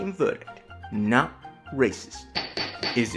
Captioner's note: gavel bangs